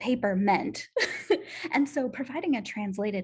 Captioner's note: laughter